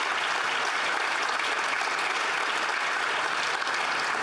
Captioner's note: applause